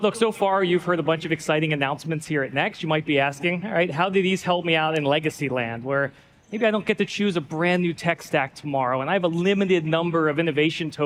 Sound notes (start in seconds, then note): none